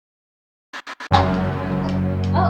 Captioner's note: static sound